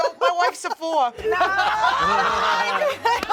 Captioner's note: everyone laughs